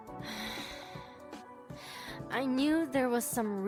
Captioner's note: sighs